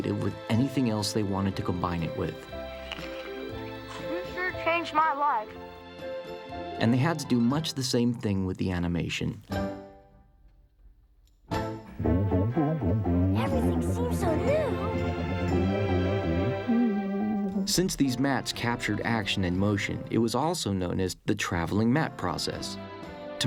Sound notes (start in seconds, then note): 14.8 elliott humming